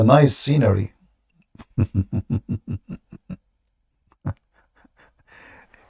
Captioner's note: Ketawa